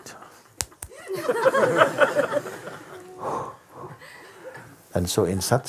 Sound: laughter

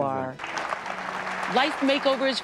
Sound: applause

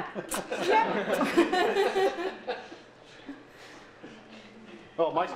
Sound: laughter

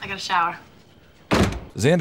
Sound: door close

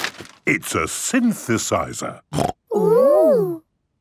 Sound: snorting

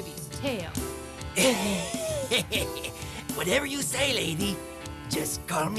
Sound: laughs

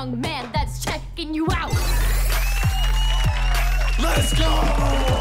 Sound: cheers and applause

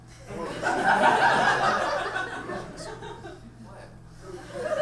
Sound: audience laughs

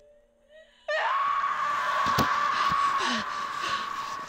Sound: woman screaming; Brigit panting

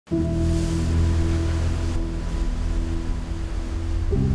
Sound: waves crashing; somber music playing

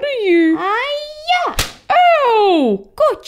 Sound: smack!

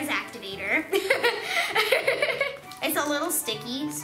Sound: laughing

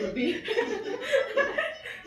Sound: laughs

